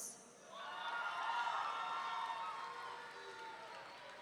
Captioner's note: audience cheering